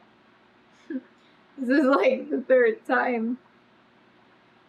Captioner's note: laughs